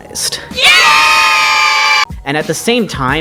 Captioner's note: cheers